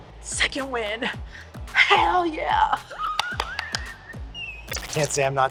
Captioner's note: laughing